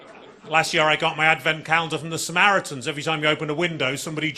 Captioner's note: audience laughing